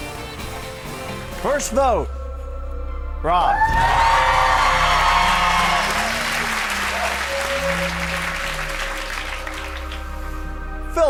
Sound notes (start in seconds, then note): 3.5 audience cheers